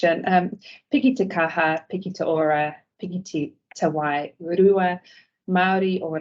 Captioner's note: speaking in te reo Maori